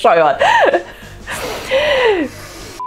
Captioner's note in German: lacht